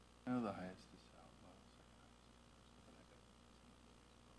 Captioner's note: faintly speaking